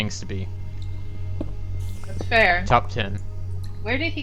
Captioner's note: stompy